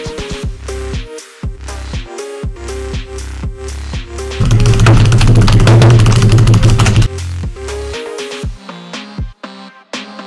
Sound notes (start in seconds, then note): 4.4 overly intense and angry typing Noises